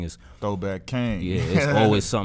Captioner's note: laughs